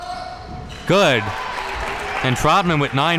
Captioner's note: audience cheering